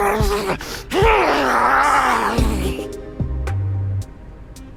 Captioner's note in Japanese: うめき声